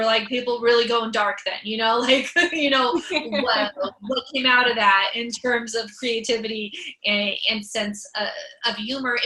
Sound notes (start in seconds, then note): 3.0 laughs